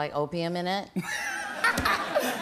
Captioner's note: laughter